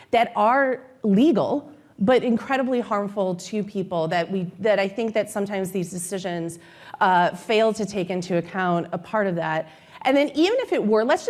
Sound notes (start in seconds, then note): none